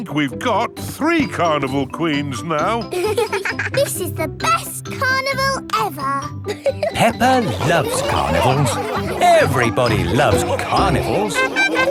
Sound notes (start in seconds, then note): 2.9 both giggling